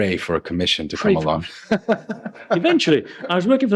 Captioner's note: laughs